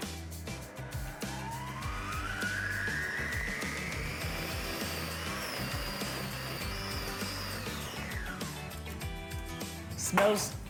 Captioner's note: food processor whirring